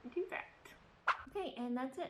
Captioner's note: Swish